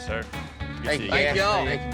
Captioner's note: all chatting